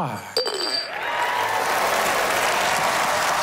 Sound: applause

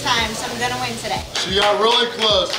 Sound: clapping

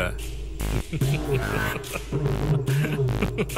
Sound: Mani laughs

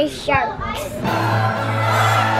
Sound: upbeat music; screaming

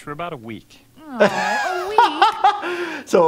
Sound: Leela groaning; laughing

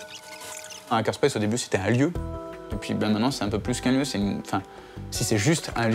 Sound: speaking in a foreign language

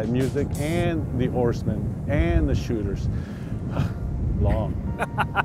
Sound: exhales

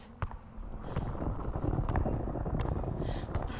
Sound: rumbling

